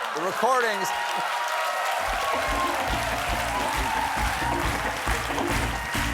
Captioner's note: applause